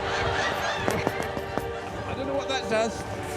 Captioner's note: hammering